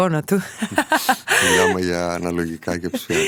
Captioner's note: laughs